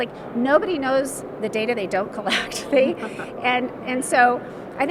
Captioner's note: laughing